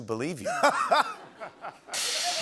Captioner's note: laughter